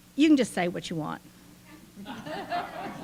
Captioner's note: laughing